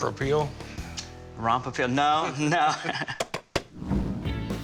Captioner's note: laughs